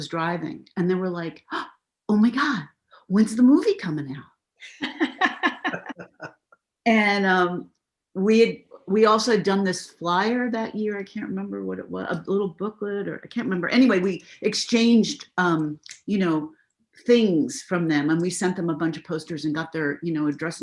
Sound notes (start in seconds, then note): 4.6 laughter